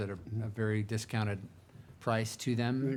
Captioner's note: none